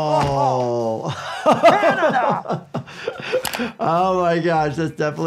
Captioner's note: crash; laughs